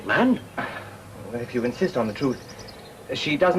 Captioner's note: sigh